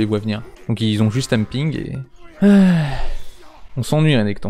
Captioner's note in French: soupir